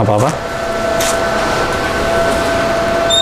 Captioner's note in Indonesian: suara tarikan PET film